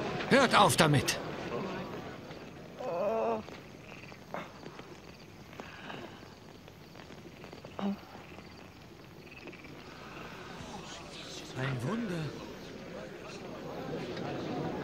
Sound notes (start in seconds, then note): 11.3 whisper